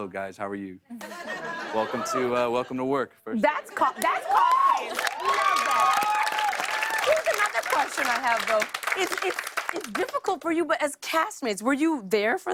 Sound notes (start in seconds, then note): 1.0 laughter; 3.9 cheers and applause